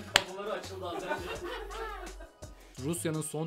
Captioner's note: laughter